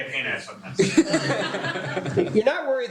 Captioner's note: laughter